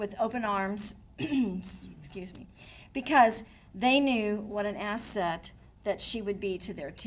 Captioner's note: coughs